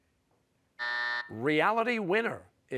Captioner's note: buzzer